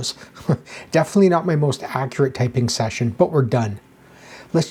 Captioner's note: chuckles